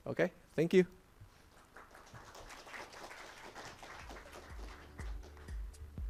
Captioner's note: applause